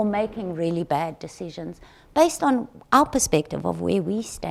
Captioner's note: none